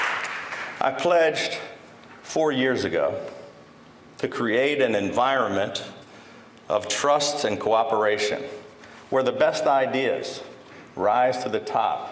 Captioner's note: applause